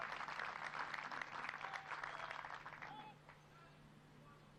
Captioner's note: military commands off mic